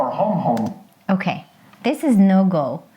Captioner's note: space bar clicks